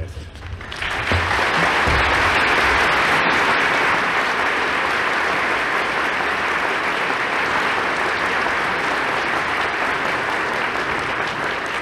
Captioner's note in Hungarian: Taps